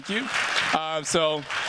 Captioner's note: applause